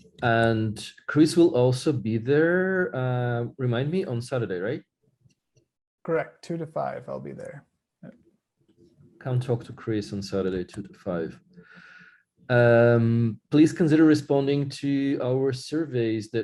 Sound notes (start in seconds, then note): none